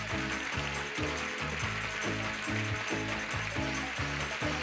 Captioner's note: audience applauding